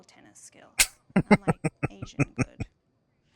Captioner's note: laughing